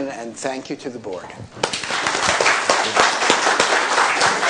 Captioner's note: applause